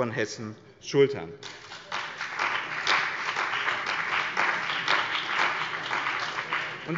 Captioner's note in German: Beifall bei dem BÜNDNIS 90/ DIE GRÜNEN und der CDU